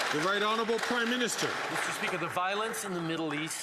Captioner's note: some Applause